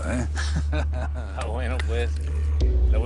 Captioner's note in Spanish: Risas